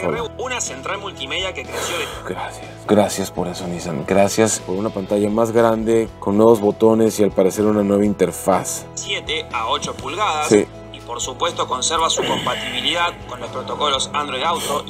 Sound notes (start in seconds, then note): 0.2 man speaking in Spanish; 1.7 sighs; 8.9 man speaking in Spanish